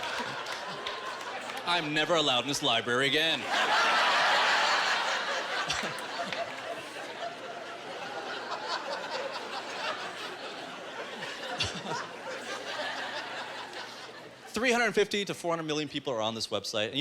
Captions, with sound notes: I’m never allowed in this library again. (Audience laughing) 350 to 400 million people are on this website.